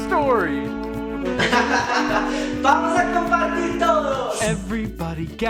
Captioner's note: laughs